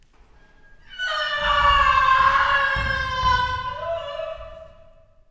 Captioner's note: screams offstage